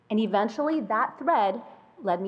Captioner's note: none